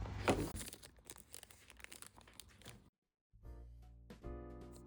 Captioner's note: rustle rustle